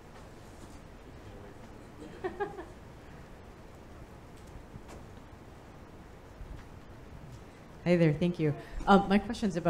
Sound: laughing

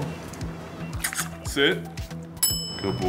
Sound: lips puckering; bell dings

